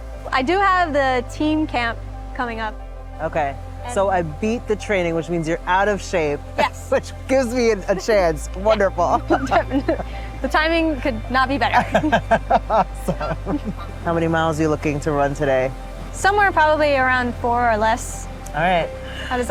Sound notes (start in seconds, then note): 11.7 laughing